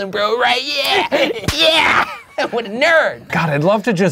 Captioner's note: laughing